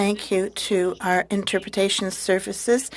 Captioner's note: speaking in French